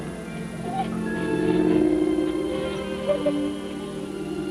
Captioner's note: dog whimpering